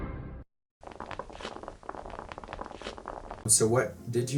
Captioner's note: pebbles falling